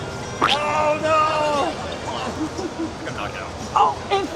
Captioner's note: splat; laughs